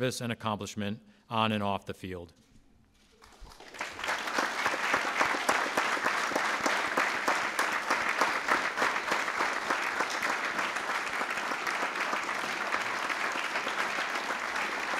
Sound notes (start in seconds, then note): 3.1 applause